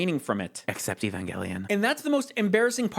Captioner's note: whispered